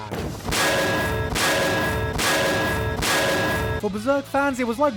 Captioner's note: frying Pan Hit Sound